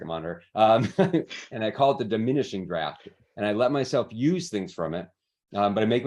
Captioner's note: laughs